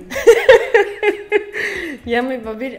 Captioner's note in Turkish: hahaha